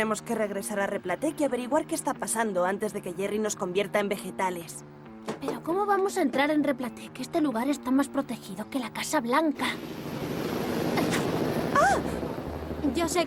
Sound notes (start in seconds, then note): 10.3 whooshing